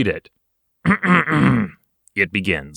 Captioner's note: clears throat